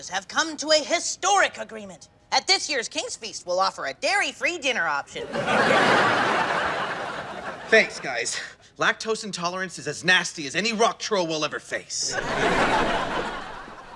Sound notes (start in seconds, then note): 5.2 audience laughing